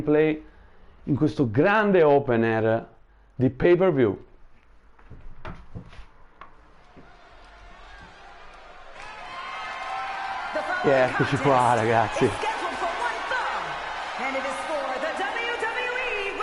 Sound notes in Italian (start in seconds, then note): 9.6 Applauso